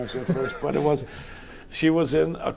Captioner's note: laughing